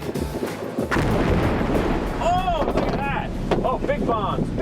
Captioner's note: explosions